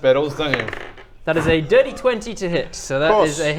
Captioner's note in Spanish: Suspiro resignado